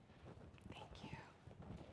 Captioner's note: none